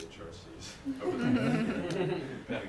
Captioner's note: laughter